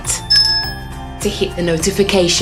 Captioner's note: bell rings